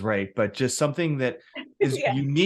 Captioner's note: laughs